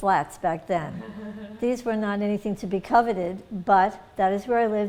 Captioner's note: laughter